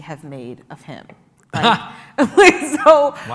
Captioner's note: laughs